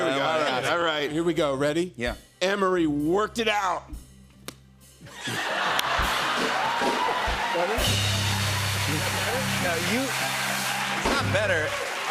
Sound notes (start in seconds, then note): 5.0 laughter; 5.2 cheers and applause